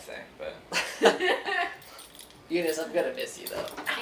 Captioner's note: laughing